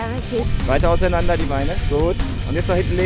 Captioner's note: speaking German